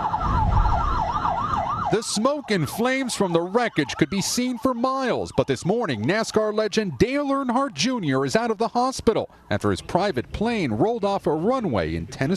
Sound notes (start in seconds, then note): 6.1 sirens